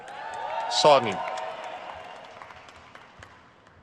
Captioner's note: crowd cheers